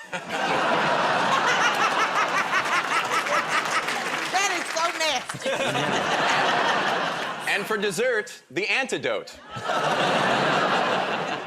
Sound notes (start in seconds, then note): 0.2 laughs; 0.2 audience groans; 5.3 laughter